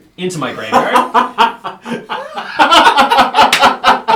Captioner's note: all laugh, except who is sad